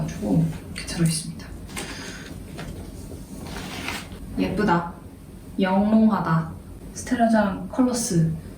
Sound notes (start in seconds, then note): 3.4 slipping